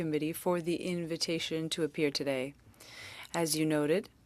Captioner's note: speaking French